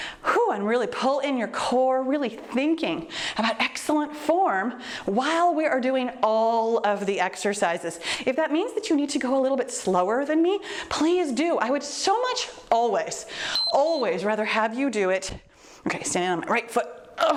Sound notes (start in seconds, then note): 0.2 exhales deeply; 13.4 timer beeps